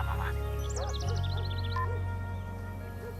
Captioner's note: phone beeps off, dog barks